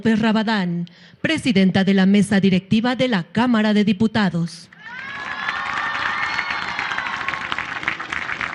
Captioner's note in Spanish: aplausos